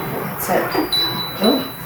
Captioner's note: knock sound